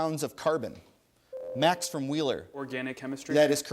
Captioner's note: ding